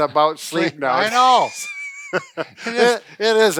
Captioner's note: laughing